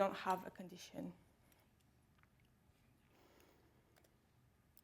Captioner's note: mouse clicking